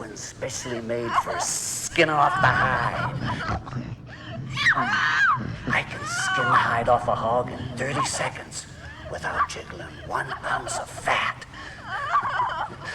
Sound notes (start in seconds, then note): 2.3 Liz screaming